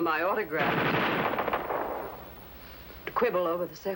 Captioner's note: gunfire